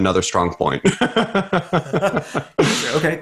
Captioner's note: laughs